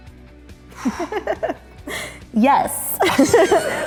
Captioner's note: laughs